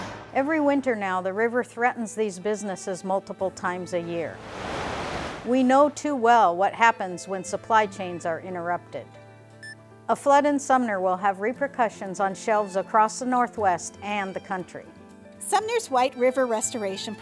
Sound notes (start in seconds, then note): 4.3 water rushing